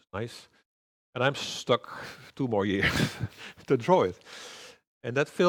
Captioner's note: chuckles